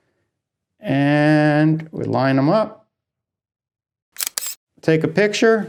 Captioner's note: snap sound